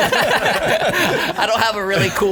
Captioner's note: both laughing